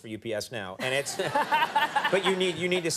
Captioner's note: Jada and audience laughing